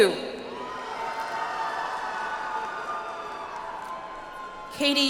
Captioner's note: audience applauds